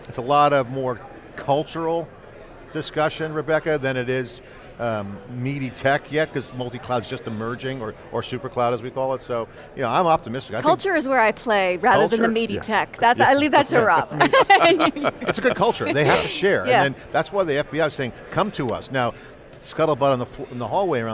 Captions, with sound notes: It's a lot of, more, cultural discussion, Rebecca, than it is meaty tech yet. 'Cause multi-cloud is just emerging, or Supercloud as we call it. So, you know, I'm optimistic. I think- >> Culture is where I play, rather than the meaty tech- >> Culture- >> That, I leave that to Rob. (chuckles) (group chuckles) >> That's a good culture, they have to share. And then that's why the FBI is saying "Come to us." Now, scuttlebutt on the, in the hallway